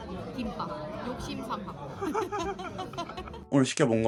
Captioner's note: laughter